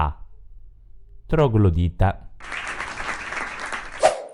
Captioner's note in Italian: Applauso